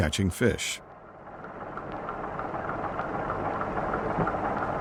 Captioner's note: boat motor humming